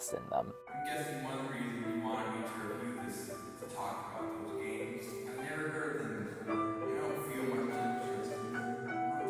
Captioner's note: echo from gamey stuff